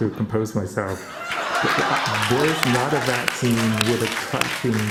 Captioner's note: laughter and applause